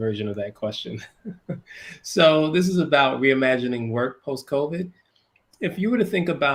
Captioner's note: laugh